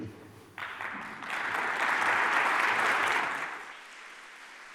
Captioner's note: applause